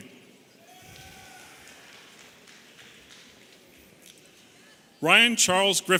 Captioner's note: audience applauding and cheering